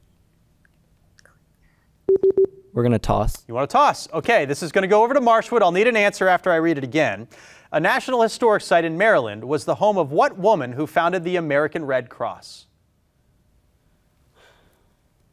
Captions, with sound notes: (warning bleep) - We're gonna toss. - You wanna toss? Okay, this is gonna go over to Marshwood. I'll need an answer after I read it again. A national historic site in Maryland was the home of what woman Who founded the American Red Cross?